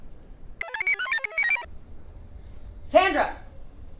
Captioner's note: computer chirps